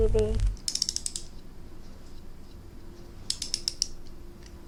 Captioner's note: doll cranking